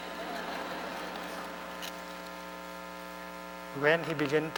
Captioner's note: laughter